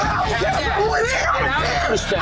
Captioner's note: screaming